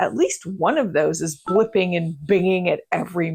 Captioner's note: notifications ding